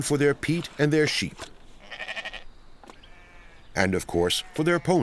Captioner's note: sheep bleating